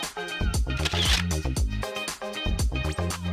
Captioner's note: camera Shutter Clicks